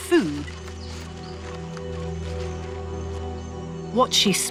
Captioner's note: leaves rustling; intense music